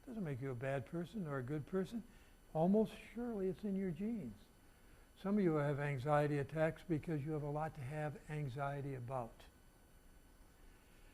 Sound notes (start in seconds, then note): none